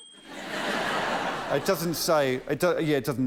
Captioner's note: laughter